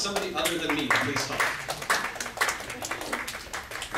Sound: audience claps

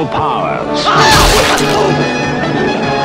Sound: pained yell from ripping skin off

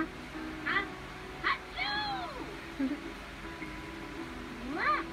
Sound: giggles

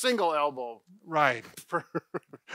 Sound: chuckles

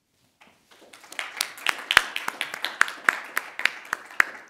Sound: audience applauding

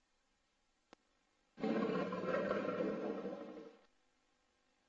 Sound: jaguar roars

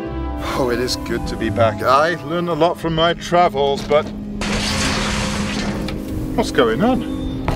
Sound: bang

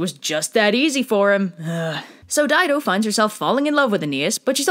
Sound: sighs

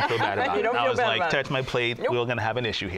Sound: laughter

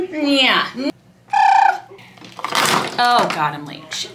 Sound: person trilling lips; makeup clatters

